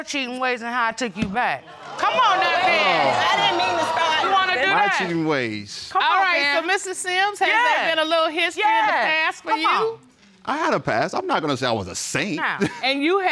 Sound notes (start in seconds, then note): 1.7 audience exclaiming